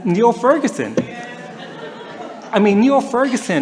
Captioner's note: laughter